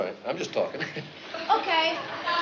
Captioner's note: nervous chuckle